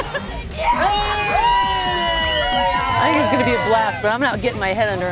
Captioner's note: crowd Cheering